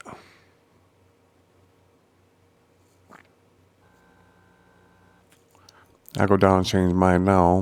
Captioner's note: silence